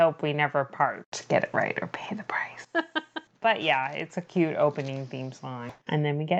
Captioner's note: laughs